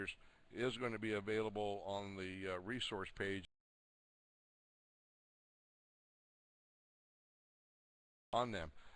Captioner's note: audio drops